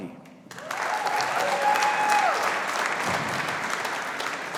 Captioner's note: audience applauding